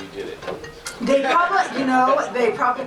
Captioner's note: audience laughs